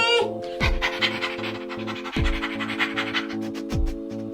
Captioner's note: dog panting